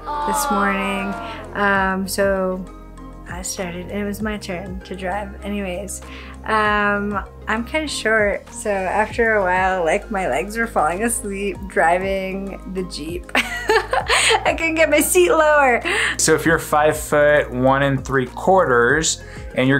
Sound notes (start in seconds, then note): 13.4 laughs